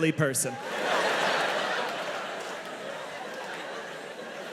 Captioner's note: audience laughing